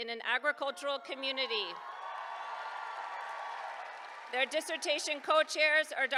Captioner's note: applause